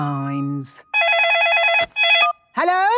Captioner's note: phone ringing